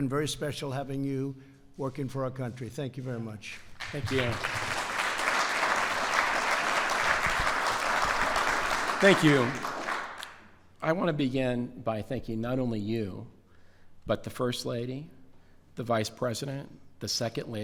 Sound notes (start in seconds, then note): 3.6 applause